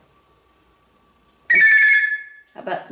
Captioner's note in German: telephone sound